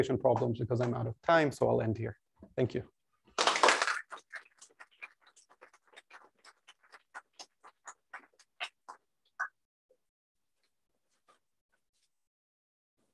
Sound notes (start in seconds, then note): 3.3 applause